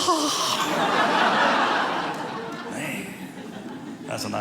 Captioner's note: audience laughing